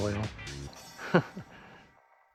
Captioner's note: chuckles